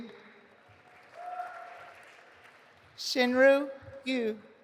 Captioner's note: audience applauding